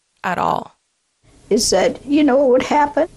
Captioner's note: soundbite of archived recording